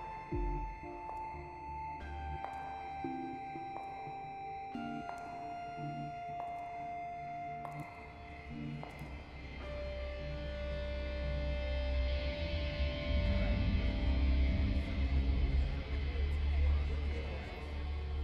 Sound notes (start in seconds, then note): 12.6 indistinct chatter